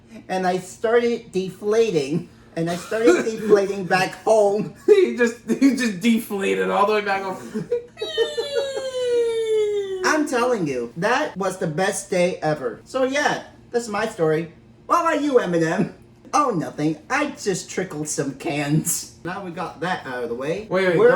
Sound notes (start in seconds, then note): 7.3 human deflating sound??